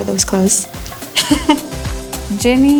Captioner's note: giggle